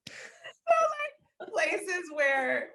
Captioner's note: laughing